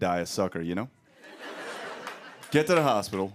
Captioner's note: laughter